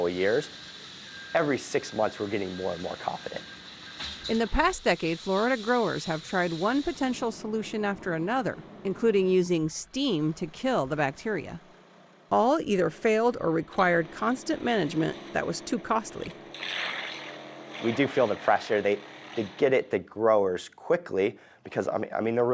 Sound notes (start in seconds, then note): 4.4 voice-over